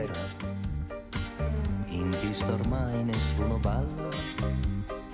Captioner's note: vocalizing in foreign language